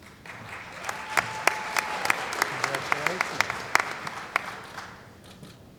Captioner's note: cheering & Applause